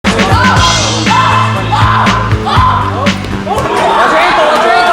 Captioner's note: woman shouting; upbeat music; people cheering and shouting